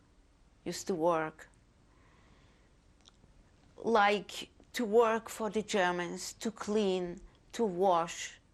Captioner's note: pauses for 3 seconds